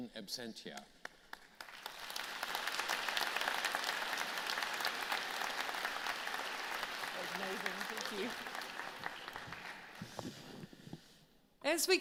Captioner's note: applause